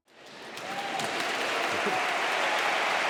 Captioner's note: applause